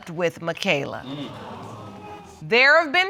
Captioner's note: audience exclaiming